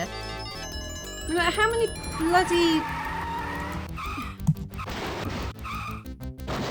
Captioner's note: screeching tyres; crashing